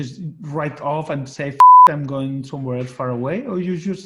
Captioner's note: beep